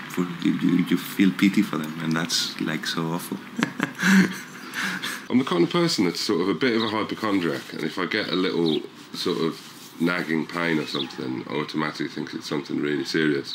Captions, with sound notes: You feel pity for them, and that's, like, so awful. (laughs) I'm the kind of person that's sort of a bit of a hypochondriac. And if I get a little, sort of, nagging pain or something, I automatically think it's something really serious.